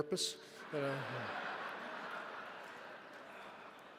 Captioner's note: audience laughs